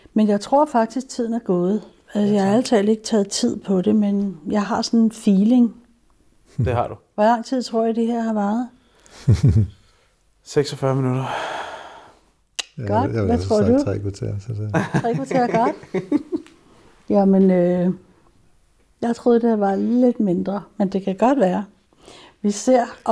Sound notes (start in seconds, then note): 14.6 laughs